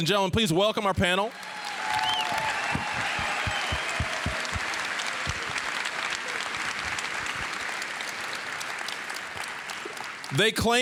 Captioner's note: applause, cheering